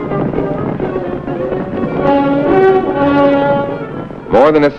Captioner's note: horses galloping